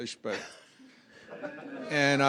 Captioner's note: laughter